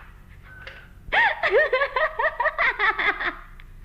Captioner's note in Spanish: risa